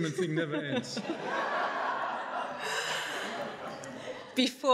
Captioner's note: audience laughing